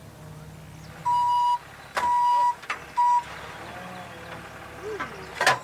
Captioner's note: tow truck beeping